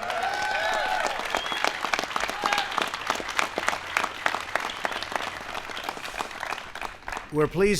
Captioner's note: applause